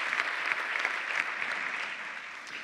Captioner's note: applause